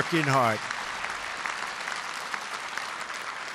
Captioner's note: applause